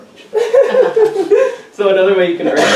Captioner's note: everyone chuckles